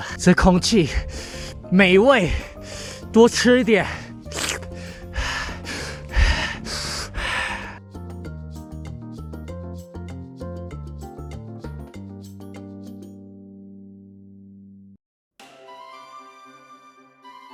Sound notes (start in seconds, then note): 6.1 vile man's breath